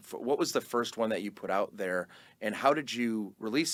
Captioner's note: none